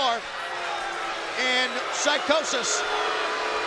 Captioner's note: crowd boos